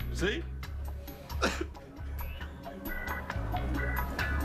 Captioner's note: sobs